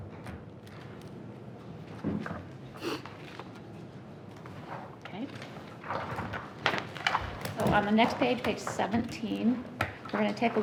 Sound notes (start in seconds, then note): none